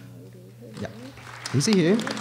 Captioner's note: applause